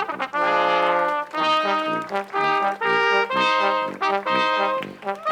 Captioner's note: crowd applauds